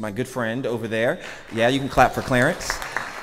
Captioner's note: audience clapping